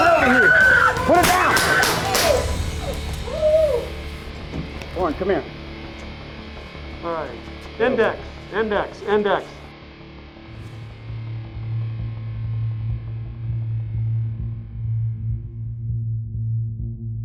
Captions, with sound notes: Get over here! Put it down! (gun fire) Come on, come here. Alright.